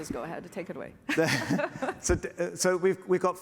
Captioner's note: laughter